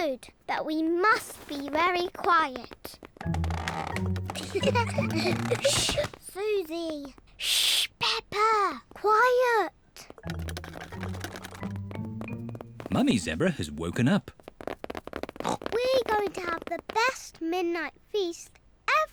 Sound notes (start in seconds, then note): 3.0 floorboards creak; 4.3 all giggle; 10.0 pattering; 15.4 oinks